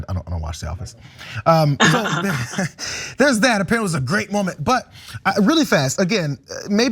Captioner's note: laugh